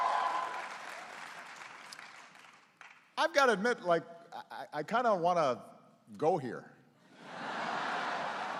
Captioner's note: laughter and applause